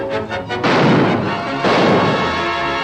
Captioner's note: gunshots